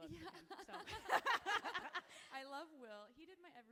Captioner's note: both laughing